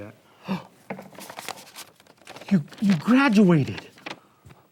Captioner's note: gasps